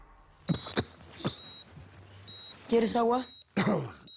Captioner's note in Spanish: Toses